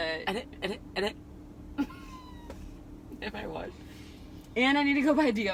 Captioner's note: laughing